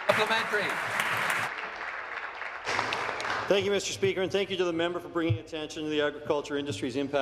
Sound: applause

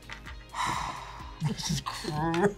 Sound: sighs

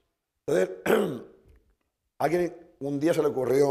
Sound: speaking spanish

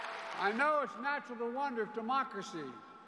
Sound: cheers and applause

